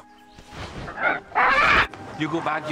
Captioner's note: squawks